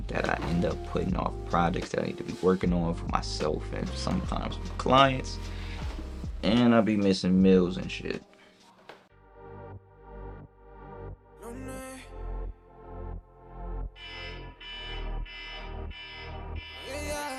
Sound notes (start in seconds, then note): 9.1 slow techno music; 13.9 alarm chimes